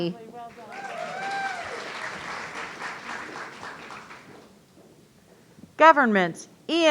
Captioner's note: audience cheering